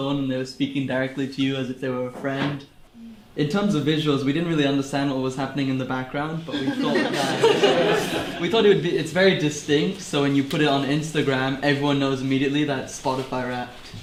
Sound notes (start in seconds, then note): 6.5 laughter in the room